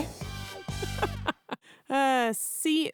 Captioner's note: laughs